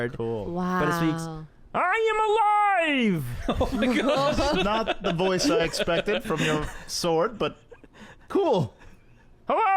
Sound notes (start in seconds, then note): 3.0 Kermit voice; 3.3 laughter